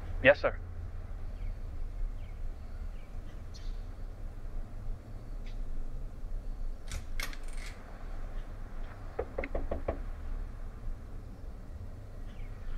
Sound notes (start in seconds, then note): 6.8 door open; 9.1 knocking